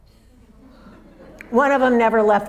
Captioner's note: audience laughs